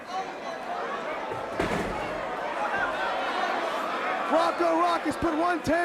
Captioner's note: crowd chatter